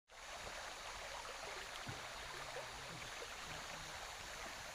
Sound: water flowing

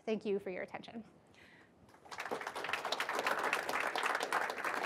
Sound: applause

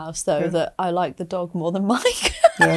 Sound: laughs

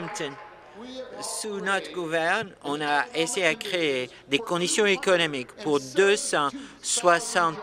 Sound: applause

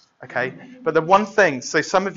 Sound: laughter

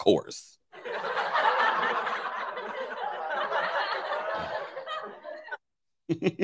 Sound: crowd laughing sound effect plays

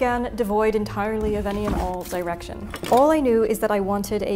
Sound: scissor clatter

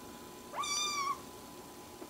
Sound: meow

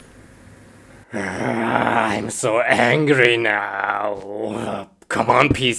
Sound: grunts

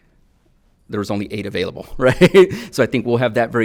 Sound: chuckles

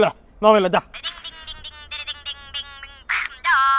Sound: cellphone rings

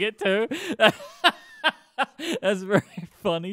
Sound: laughing

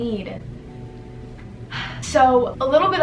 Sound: sigh

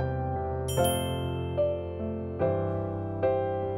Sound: bell chimes

